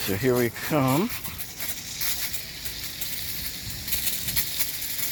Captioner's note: water squirting